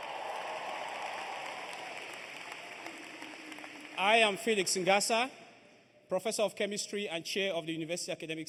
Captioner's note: cheers and applause